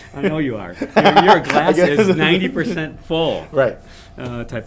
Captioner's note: laughs